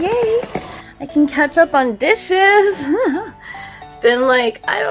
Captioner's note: laughs